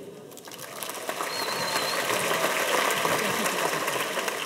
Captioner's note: audience applauds